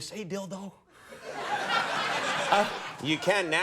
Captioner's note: audience laughs